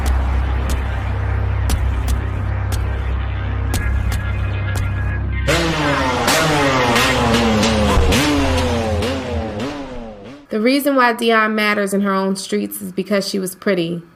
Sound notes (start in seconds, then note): 5.4 motorcycles revving; 12.4 voiceover